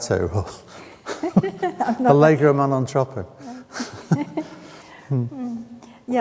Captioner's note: chuckles; laughs